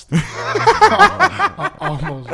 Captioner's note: laughing